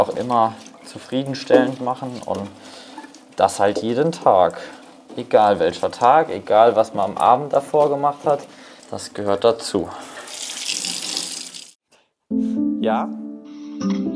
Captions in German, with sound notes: man will das ja auch immer zufriedenstellend machen. Und das halt jeden Tag. Egal welcher Tag, egal was man am Abend davor gemacht hat. Das gehört dazu. (Plätschern) (Ruhige Musik) Ja?